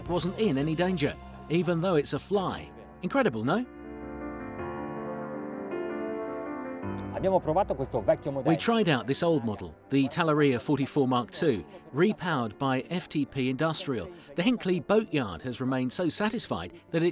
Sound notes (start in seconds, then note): 7.3 host speaks in foreign language; 8.6 voiceover